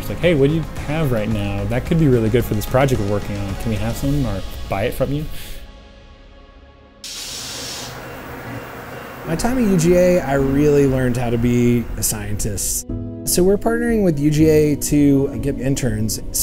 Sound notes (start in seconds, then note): 7.0 machine whooshes